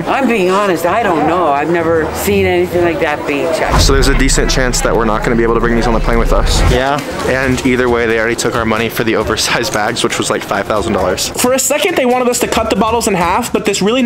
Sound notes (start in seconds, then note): none